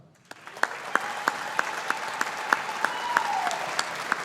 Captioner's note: audience applauding